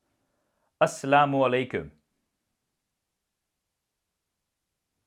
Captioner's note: speaking Arabic